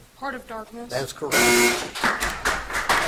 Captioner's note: buzzer buzzes